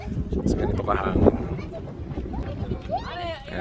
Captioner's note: wind